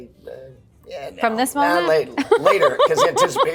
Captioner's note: laughs